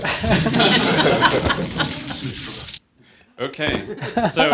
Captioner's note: audience laughter